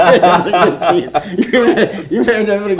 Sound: laughter

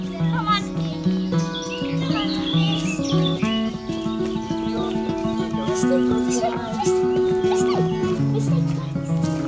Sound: voices in the distance

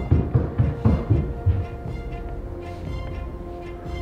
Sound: footsteps

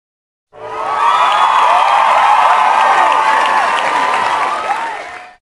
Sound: applause

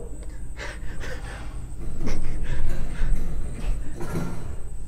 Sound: a door opens elsewhere on the ship

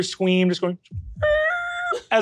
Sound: squeems

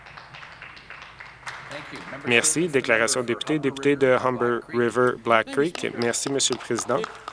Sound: some Applause

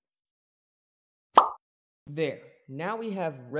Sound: pop

